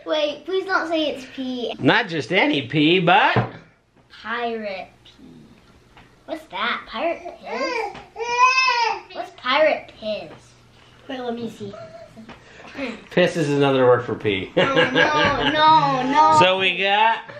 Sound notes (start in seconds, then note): 14.5 laughs